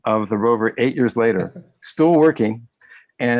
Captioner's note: laughs